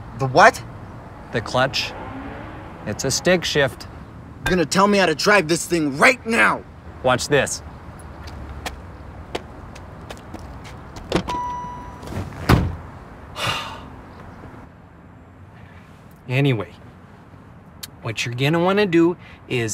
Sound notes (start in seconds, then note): 11.0 car door slams; 13.3 sighs